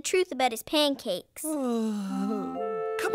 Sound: sigh of relief

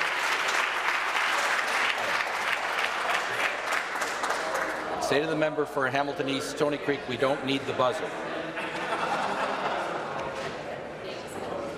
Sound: applause

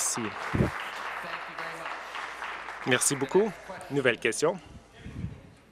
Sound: applause

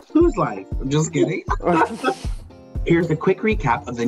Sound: laughing

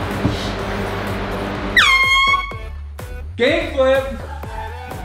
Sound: air horn

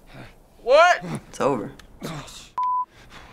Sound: Joel screams in pain; Joel groans; Ellie, breathlessly

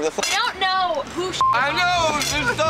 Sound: beep

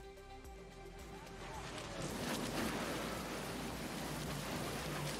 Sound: walls breaking

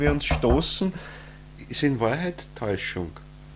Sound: bangs on the table

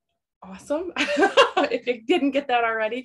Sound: laughter

